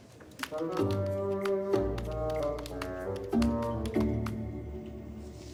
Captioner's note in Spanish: Tecleo